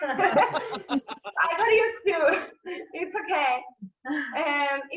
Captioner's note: laughter